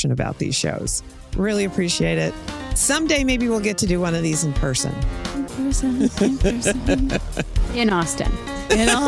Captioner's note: laughs